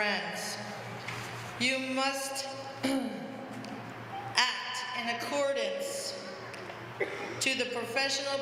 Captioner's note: cough